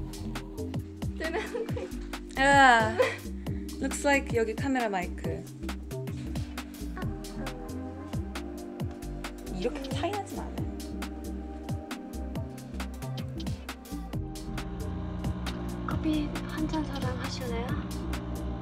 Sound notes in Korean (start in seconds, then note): 14.4 커피머신: 위이이잉~